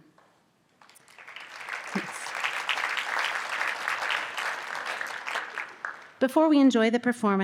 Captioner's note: audience applause